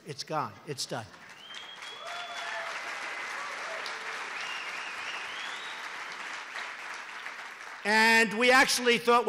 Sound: applause

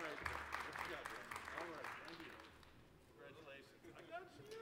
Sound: applause

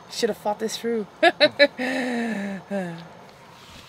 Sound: laughs

